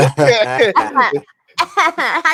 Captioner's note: laughing